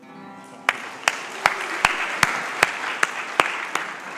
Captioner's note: crowd clapping